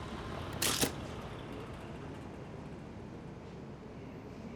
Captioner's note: camera clicks